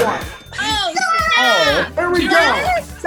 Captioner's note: cash register ca-ching; all screaming